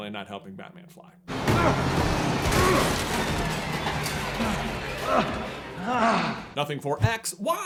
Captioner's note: bouncing groans of pain